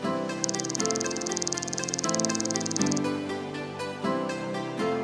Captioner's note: computer keys clicking